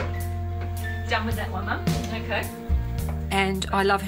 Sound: thump

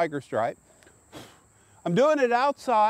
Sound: blowing

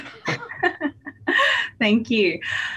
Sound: both laughing

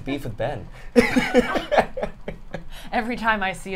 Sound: all laugh

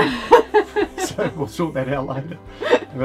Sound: laughs

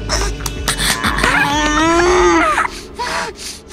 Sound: Tybalt gasping; Romeo grunting; Romeo panting

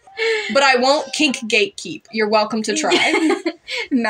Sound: laugh

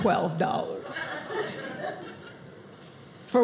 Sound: audience laughing

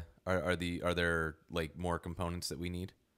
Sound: none

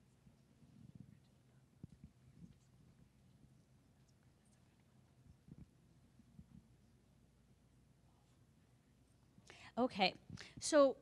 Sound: silence

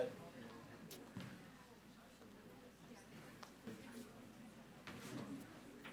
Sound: audience speaking faintly

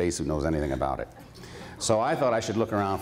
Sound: laughter

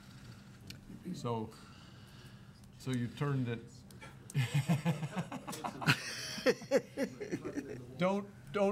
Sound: laughing

